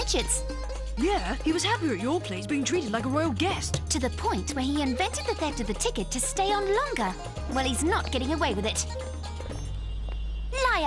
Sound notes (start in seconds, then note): none